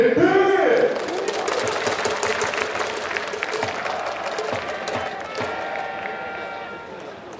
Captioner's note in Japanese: 拍手･応援